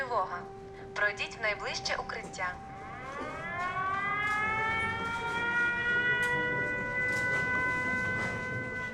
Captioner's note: air raid siren; air raid siren